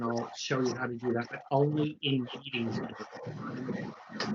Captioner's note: audio blurs